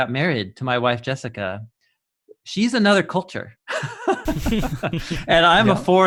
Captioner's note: laughing